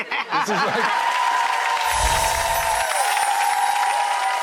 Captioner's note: audience cheering